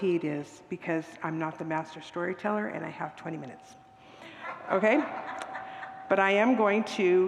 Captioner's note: congregants laugh